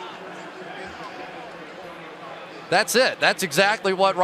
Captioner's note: pa announcement